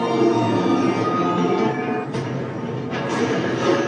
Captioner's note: eerie carnival music; metallic roar; metal rattling